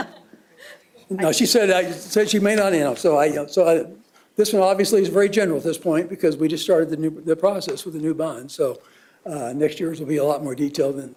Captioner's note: laughter